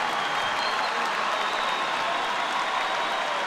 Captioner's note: cheering